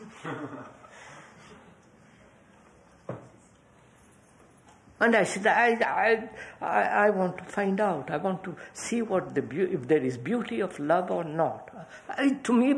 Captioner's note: laughter